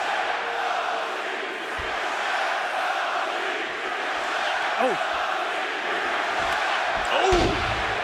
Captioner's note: crowd cheering